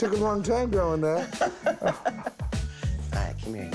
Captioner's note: laughs